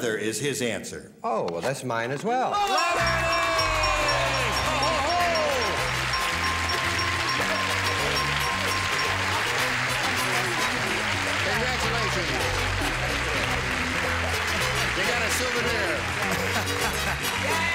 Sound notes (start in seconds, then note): 3.8 bell dinging; 6.2 applause; 16.2 laughs